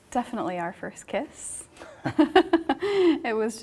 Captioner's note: both laugh